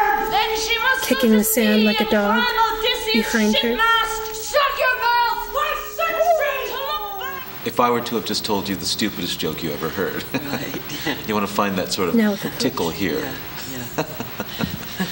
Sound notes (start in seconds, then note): 0.0 howling; 6.5 howling; 10.1 he laughs; 13.8 he laughs